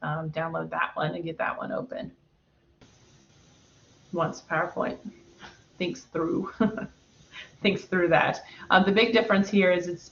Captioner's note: laughter